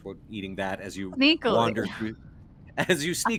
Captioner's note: Violette mumbles; chuckles